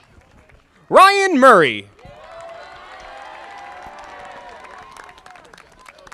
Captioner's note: audience applauding